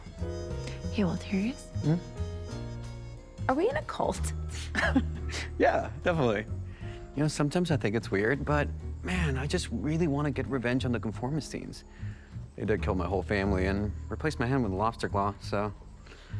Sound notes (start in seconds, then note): 4.6 chuckles